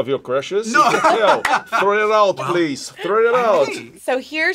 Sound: laughs

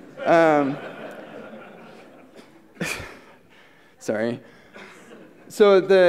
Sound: laughter

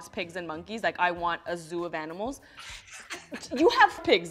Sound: laughs

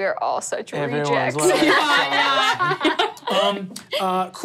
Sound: laughing

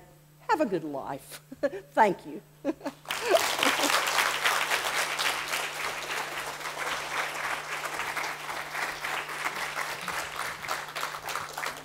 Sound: audience applause

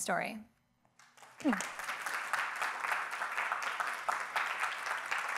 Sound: audience applauding

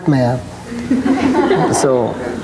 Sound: audience laughing

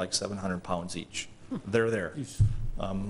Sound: laughing

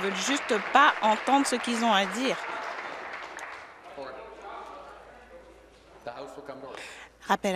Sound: applause

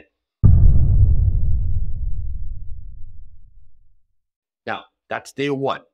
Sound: drum beat sound effect

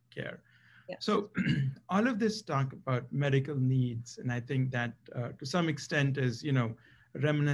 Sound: cough

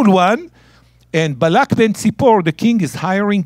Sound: speaking in Hebrew

